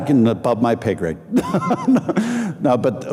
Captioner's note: laughing